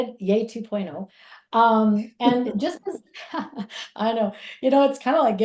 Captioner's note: laughs; chuckles